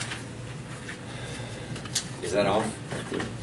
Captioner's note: heavy sigh